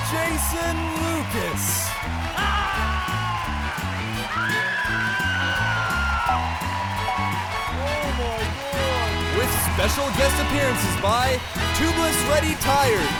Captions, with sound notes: Jason Lucas. (cheering) With special guest appearances by tubeless ready tires,